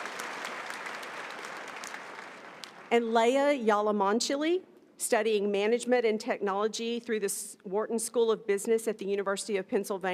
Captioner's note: applause